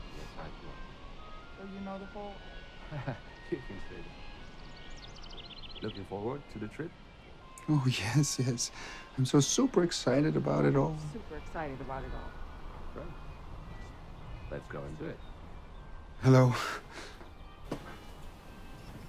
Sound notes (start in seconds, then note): 2.8 man laughs